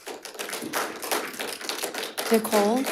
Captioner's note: audience applauds